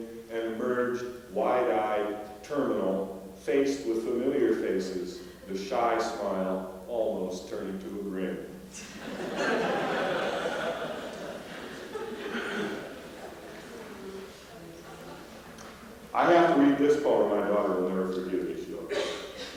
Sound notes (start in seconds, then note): 8.8 laughter